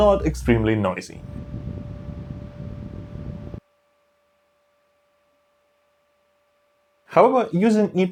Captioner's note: noisy fan noise